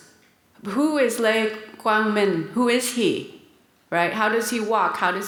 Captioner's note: speaks in foreign language